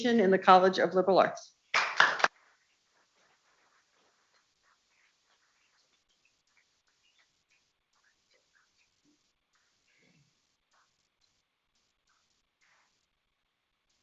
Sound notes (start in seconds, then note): 1.7 people clapping